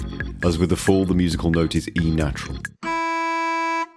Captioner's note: car horn in E